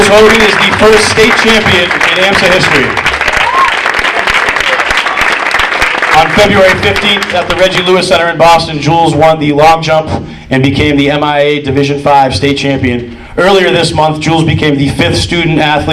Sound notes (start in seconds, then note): 3.1 audience cheering and applauding